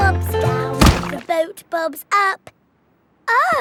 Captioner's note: thuds